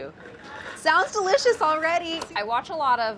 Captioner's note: cabbage creaks